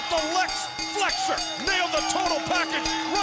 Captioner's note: bell dinging